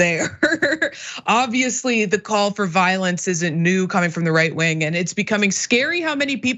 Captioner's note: laugh